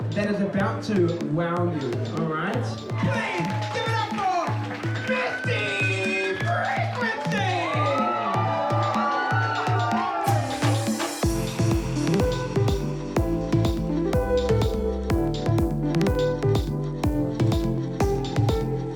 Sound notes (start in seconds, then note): 7.3 cheering